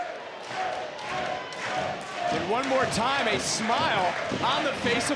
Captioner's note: cheering